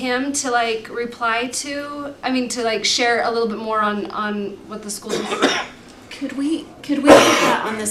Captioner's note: cough